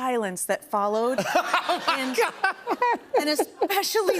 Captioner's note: laughs